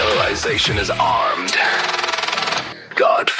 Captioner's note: Static